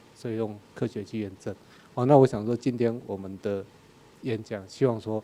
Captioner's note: speaking in a foreign language